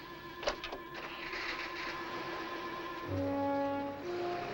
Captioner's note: engine revving